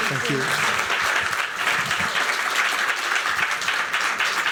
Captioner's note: applause